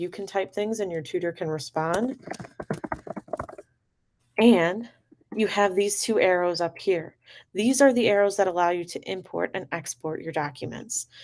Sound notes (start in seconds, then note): 2.0 typing